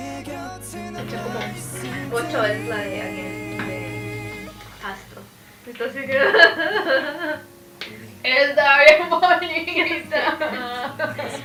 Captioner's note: bawling